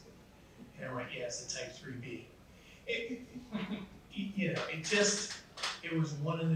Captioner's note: laughs